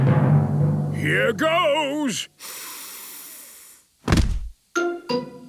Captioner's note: dramatic drumming music; sniffs